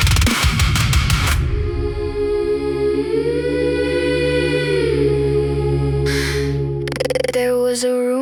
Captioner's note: humming